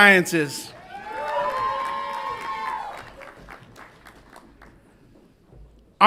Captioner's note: audience applauds and cheers